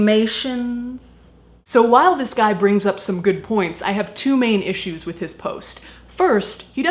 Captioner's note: regular voice